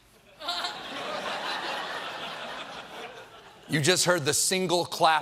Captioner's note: laughter